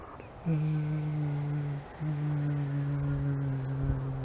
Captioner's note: UFO Engine Noise Sound